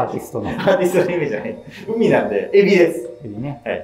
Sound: laughing

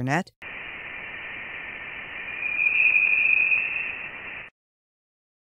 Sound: audio tone

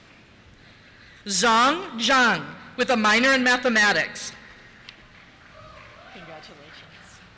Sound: cheers

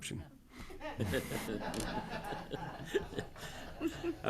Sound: everyone laughs

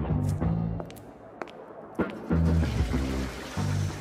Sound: footsteps; toilet flush

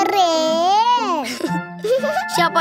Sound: laughing

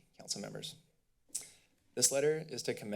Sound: clicks tongue

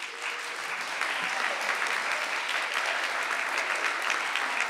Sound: audience applauding

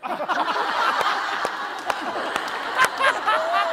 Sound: laughing

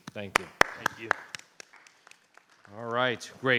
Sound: audience applauding

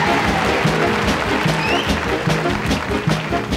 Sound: audience applauding; lively orchestral music

